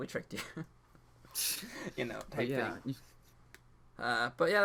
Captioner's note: both laugh